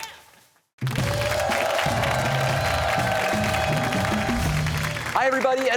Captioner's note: cheers and applause